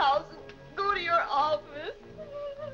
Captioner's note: weeping